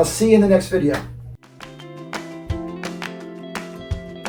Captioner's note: hand slaps